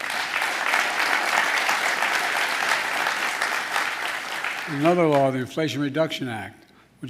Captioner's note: applause